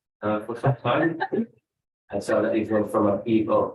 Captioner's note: speaks faintly